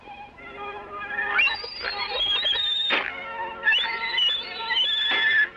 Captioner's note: piglets squealing